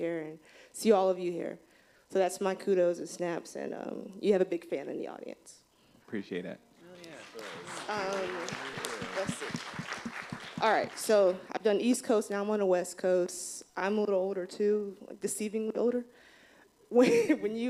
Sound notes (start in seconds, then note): 6.9 applause